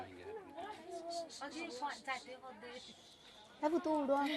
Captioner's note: background voices